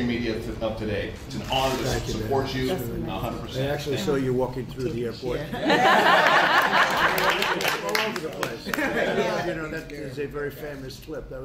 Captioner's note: applause